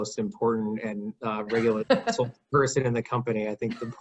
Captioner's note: laughing